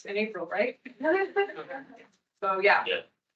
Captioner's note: attendees laughing